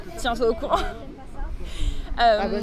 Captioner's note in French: rire